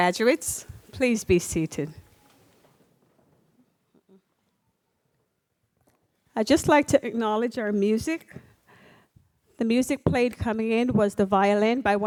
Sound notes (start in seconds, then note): none